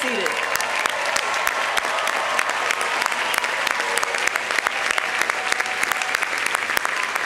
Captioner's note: audience applauding; audience cheering